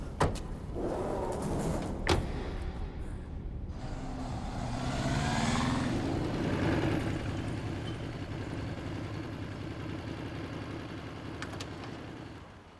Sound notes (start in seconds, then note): 0.1 doors thudding; 3.6 motorbike rumbling